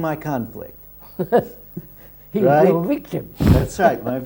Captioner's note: laughs